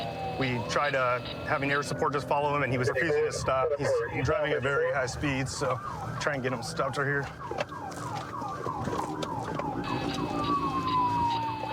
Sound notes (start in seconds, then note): 7.4 sirens blaring